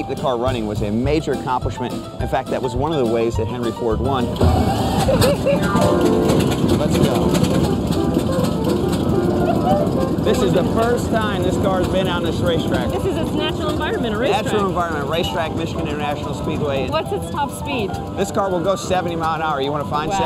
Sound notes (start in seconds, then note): 4.2 car engine starts; 4.2 old time music plays